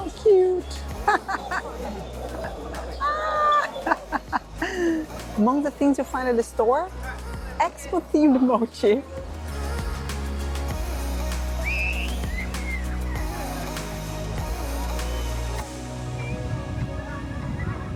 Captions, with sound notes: How cute. [ Laughs ] Ah! Among the things you find at the store, expo-themed mochi.